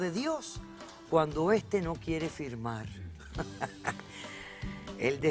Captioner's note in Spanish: Ríe